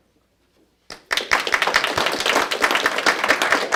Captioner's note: applause